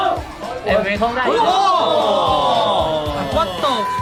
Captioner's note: exclaiming